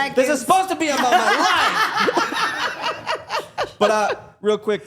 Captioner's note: all laughing